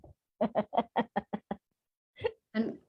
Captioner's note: laughter